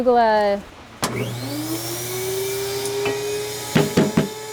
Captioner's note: machine whirring